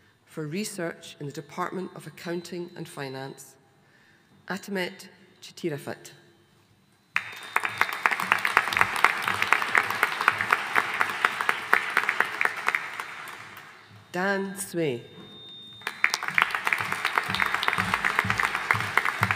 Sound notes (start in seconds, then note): 7.1 audience applauding; 15.8 audience applauding